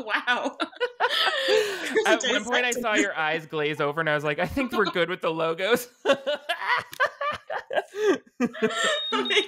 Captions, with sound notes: - Wow. - At one point, I saw your eyes glaze over and I was like, "I think we're good with the logos." (both laughing)